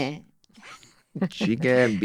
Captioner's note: they laugh